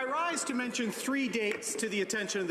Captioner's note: applause